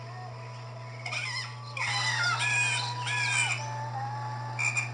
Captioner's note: bird Calling; chicken Clucking; frog Croaks